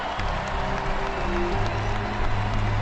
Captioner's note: cheers and applause